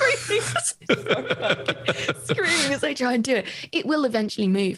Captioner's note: both laughs